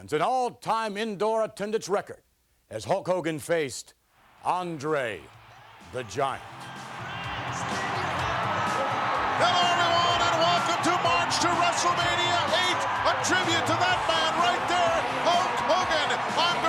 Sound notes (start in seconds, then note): 7.4 crowd cheering; 7.4 upbeat rock music